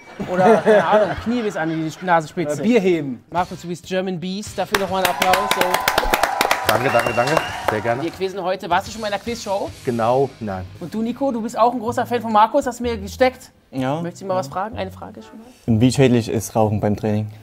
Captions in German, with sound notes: (Lachen) Oder Knie bis an die Nasenspitze. Oder Bier heben. - Markus, du bist German Beast. Dafür noch mal 'n Applaus. (Applaus, Jubel) Danke, danke, danke. Wir quizzen heute, warst du schon in 'ner Quizshow? Genau, nein. - Und du, Nico? Du bist auch 'n Fan von Markus, hast du gesagt. Ja. - Möchtest ihn mal was fragen? Wie schädlich ist Rauchen beim Training?